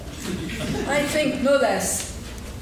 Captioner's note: laughing